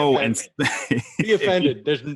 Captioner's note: laughs